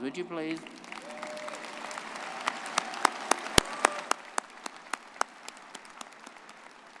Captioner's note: everyone applauding and cheering